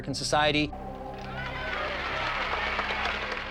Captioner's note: women cheering